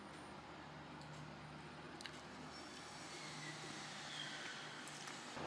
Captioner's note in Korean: feat.공사 소음